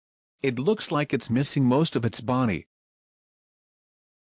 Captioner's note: voiceover